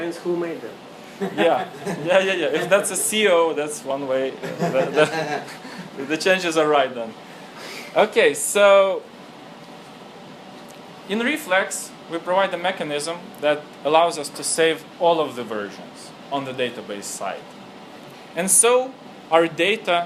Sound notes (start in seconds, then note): 7.0 laughing